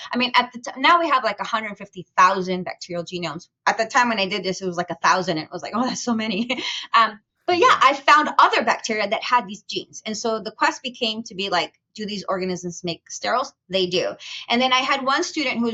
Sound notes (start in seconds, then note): 6.3 chuckles